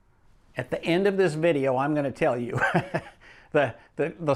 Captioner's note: laughs